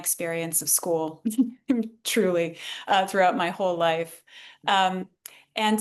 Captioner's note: laughs